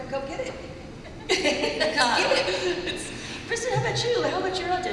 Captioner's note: laughter